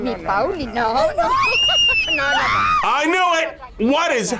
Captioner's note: people screaming